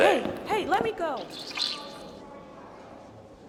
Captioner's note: gums squeak as they rub against charlie's lips